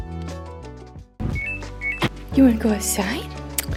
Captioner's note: washer beeping